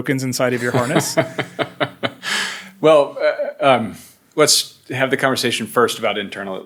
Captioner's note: laughs